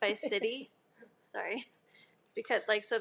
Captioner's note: laughs